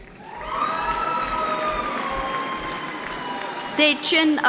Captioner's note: applauding